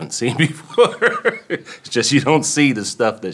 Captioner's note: laughs